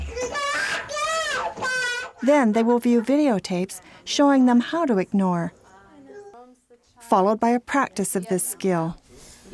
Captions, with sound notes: - [Voiceover] Then they will view videotapes showing them how to ignore. Followed by a practice of this skill.